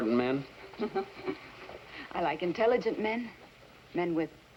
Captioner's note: chuckles